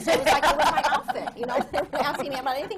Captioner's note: laughter